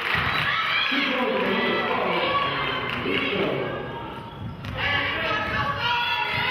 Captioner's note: clapping